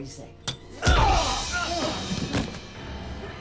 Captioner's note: Clive cries out; Ryan grunts; dramatic music